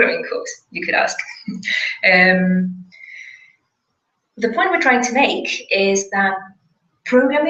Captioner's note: laugh